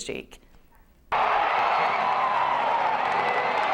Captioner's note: crowd cheering